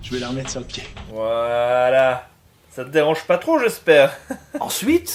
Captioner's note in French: rire